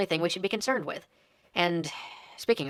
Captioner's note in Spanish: suspiro